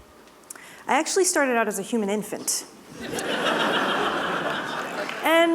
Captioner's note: laughter